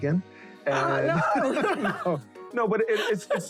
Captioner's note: laughing